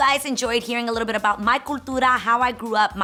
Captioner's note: speaks in foreign language